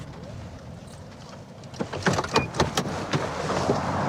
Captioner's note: car door opens